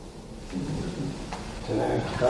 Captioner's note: distant thuds